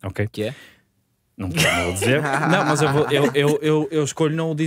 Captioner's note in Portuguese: risos